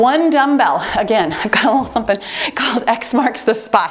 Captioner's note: timer beeps